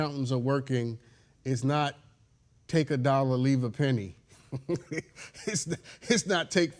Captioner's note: laughs